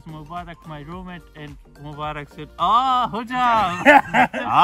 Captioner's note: in Turkish